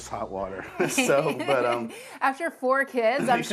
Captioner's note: host laughing